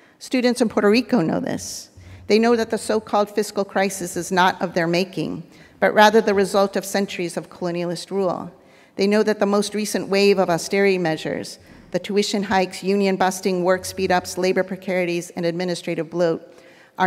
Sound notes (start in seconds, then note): none